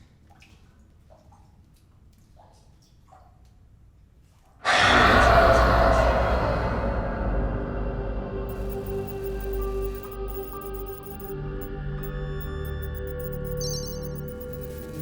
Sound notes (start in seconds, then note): 4.7 ominous music; 12.0 beeps